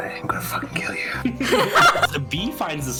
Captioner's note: laughter